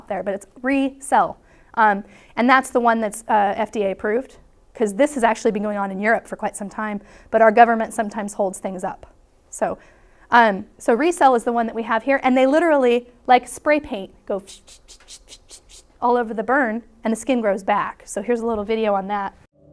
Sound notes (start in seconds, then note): 14.4 spraying noises